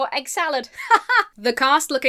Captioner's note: laughs robotically